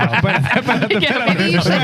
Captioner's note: laughter